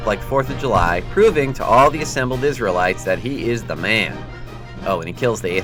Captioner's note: fireworks going off